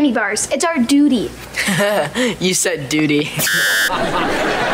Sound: chuckles

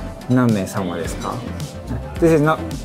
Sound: speaking in Japanese

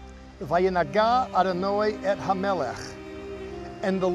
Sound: speaking in Hebrew

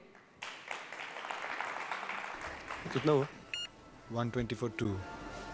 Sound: applause

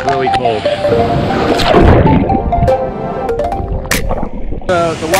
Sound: splashing

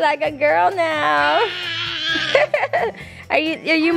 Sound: laughs; screams

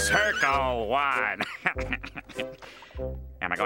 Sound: chuckling

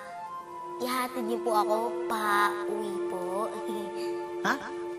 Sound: sniggers

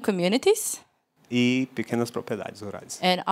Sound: non-english speech

